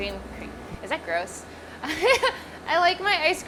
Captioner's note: laughs